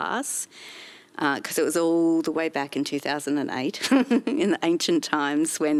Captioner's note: laughs